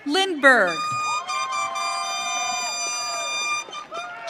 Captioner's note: audience cheering